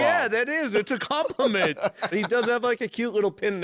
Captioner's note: laughing